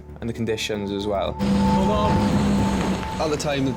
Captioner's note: engine whirring